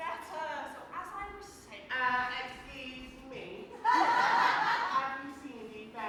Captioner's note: audience laughs